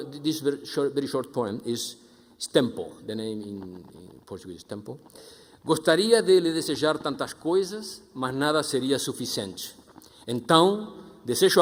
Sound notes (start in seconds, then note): 5.8 speaking foreign language